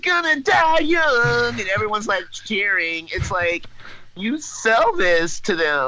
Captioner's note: laughs